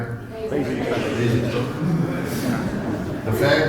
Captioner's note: laughter